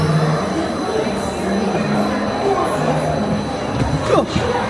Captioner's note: speaks in Spanish